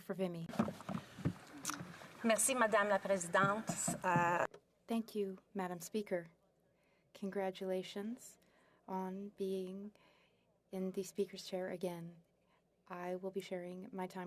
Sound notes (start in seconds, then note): 1.8 speaking French